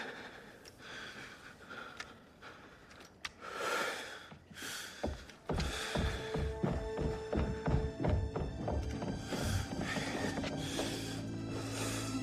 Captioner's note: breathing shakily